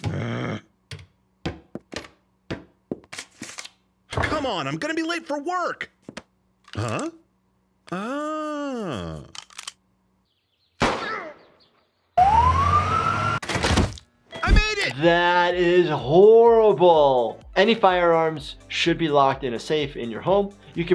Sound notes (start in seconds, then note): 1.1 cupboard door slamming; 8.2 gunshot exploding; 12.2 ambulance sirens blaring; 13.5 door slamming open